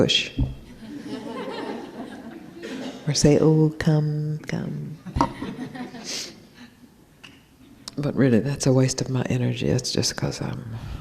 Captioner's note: some laughter